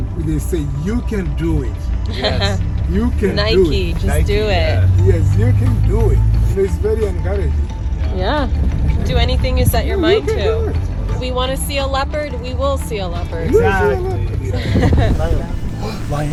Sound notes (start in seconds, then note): 2.1 laughing knowingly; 14.5 laughing happily